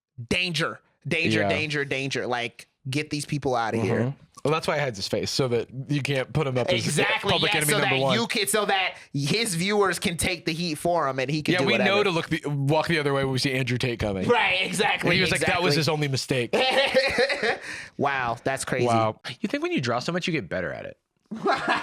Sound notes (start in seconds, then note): 16.5 laughs